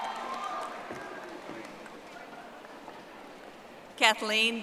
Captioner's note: audience applauding